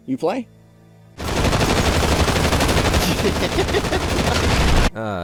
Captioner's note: gunfire and amused giggling